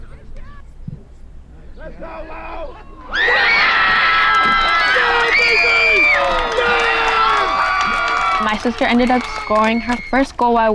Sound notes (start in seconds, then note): 3.1 cheering